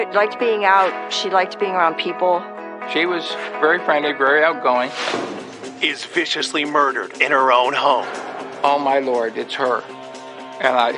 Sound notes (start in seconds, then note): 4.9 air whooshing